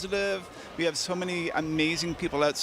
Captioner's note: cheers